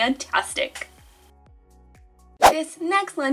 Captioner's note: air whooshing; upbeat music